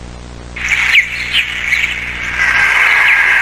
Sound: birds chirping

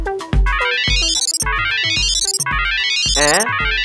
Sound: phone ring

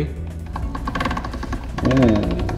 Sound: pasta machine creaking

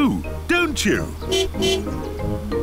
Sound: tires screeching; car honking

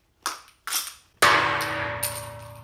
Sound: bean clacking; bean twanging

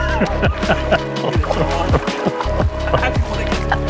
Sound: man laughing

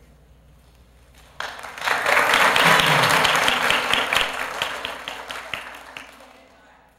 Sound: applause

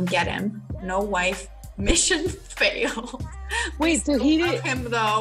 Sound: laughs

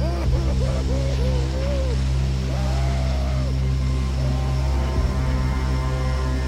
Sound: man sobbing; suspenseful music

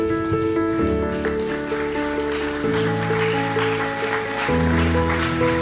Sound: applause

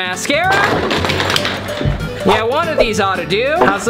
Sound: mascaras clattering

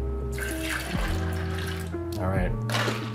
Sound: orange juice gushing

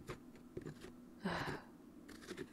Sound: sigh

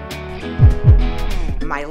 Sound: heart beat

